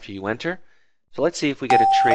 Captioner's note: doorbell sound